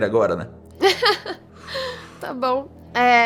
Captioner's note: laughter